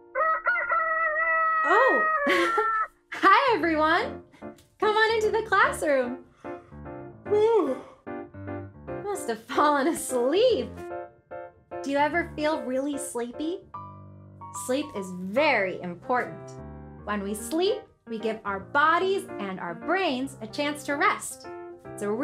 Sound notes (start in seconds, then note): 0.1 rooster crows; 7.3 yawns